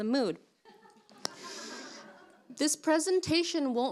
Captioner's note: group laughing